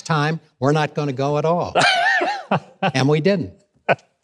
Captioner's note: laughing